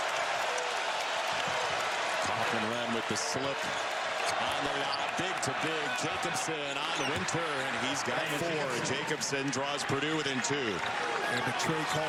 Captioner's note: cheers and applause